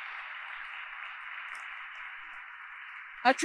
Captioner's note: applause